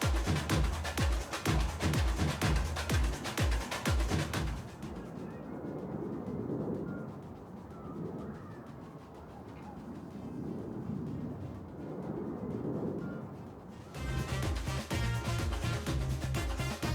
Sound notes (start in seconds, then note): 4.8 music fades; 4.8 wind blows; 13.9 upbeat music